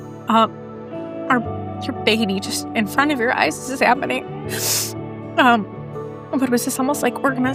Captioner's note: sniffles